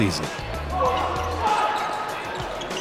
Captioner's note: game hubbub